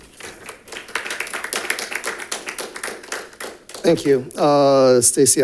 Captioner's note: audience applauding